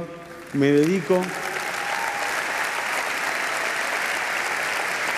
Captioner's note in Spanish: Aplausos